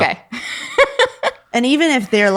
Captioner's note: laughing